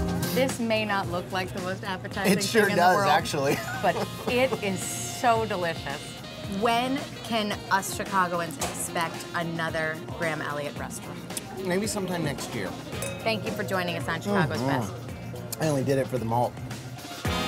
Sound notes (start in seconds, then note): 0.0 upbeat music; 3.4 laughs